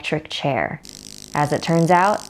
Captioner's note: buzzing